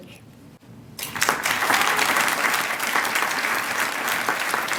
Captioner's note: applause